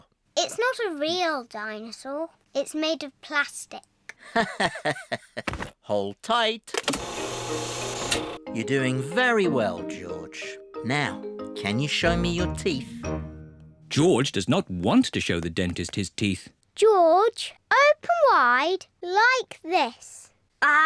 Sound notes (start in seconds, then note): 4.3 laughs